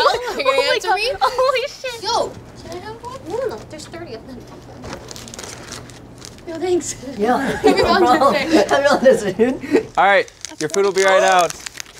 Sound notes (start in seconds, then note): 4.3 rustling; 7.2 laughing